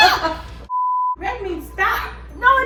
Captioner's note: beeps